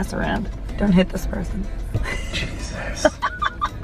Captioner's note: laughs